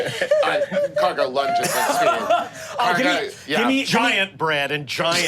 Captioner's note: group laughing; laughing